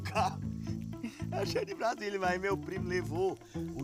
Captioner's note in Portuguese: risos